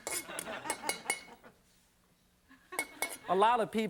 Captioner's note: audience laughs